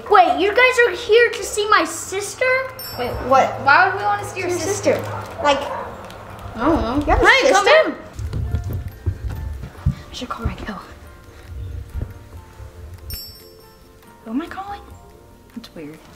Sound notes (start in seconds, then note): 13.4 sparkling